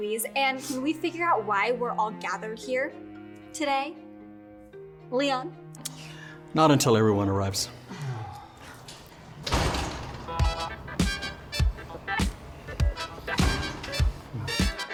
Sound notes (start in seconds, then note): 9.3 door thumps; 12.2 upbeat music